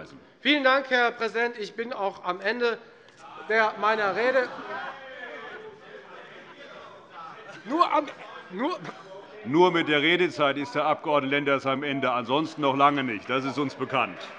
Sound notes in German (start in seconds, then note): 5.7 Zurufe BÜNDNIS 90/DIE GRÜNEN und SPD